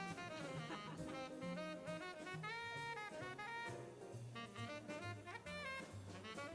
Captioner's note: upbeat jazz music continues; people chattering